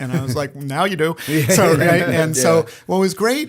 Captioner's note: laughter